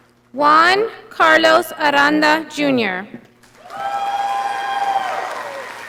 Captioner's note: audience applauding